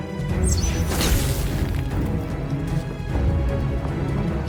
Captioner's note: suspenseful orchestral music; arrow whooshing